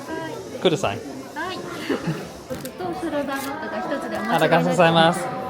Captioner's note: cast member speaking Japanese; both speaking Japanese